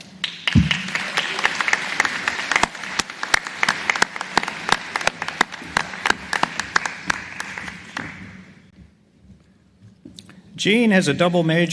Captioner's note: applause